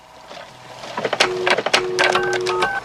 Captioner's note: phone dialing; modem clicking on